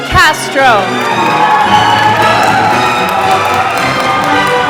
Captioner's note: applause